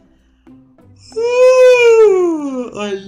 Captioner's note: yawns